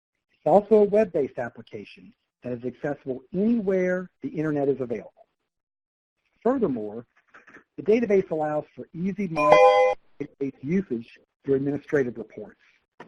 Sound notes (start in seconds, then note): 9.3 computer tone